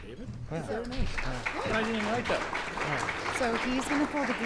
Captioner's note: clapping